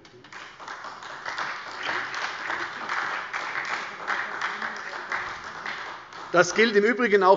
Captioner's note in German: Beifall bei der SPD